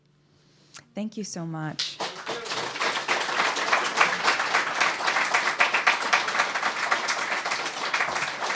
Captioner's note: applause